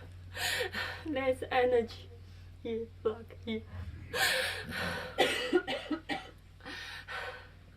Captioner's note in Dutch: huilt